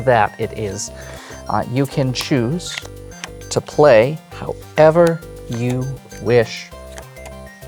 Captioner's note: cards rustling